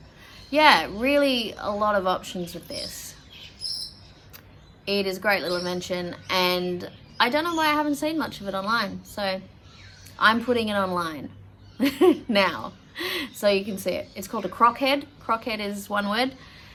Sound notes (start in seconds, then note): 3.2 high-pitched bird chirping; 11.8 chuckles